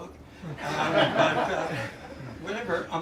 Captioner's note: laughter